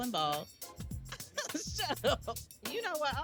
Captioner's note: laughing